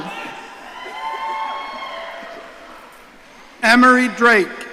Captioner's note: audience cheering